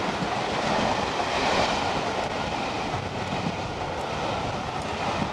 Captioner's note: train passing